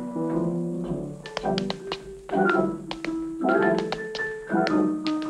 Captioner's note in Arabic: صوت نقر الأحذية